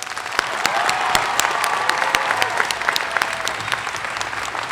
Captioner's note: applause